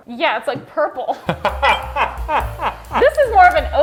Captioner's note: laughing